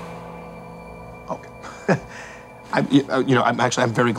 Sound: chuckles

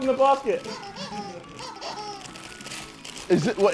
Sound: toy squeaking

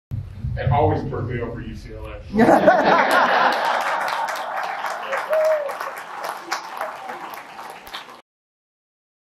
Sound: laughter & cheers

